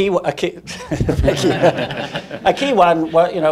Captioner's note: laughing